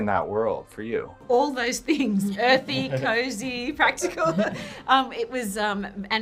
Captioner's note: laughs